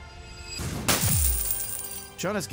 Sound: coins jangling

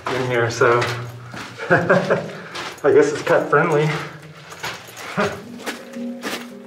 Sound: laughter

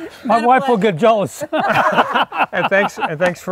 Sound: everyone laughing; laughing

